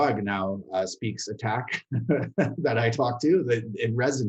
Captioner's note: laughs